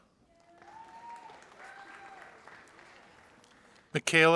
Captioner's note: audience applauding